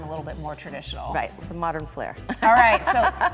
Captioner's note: laughs